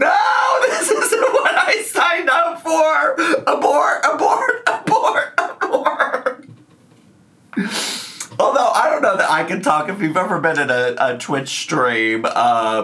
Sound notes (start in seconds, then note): 6.1 laughs